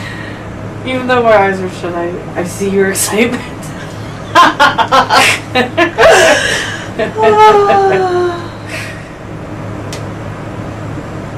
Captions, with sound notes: - Even though my eyes were shut, I see your excitement. (both laughing)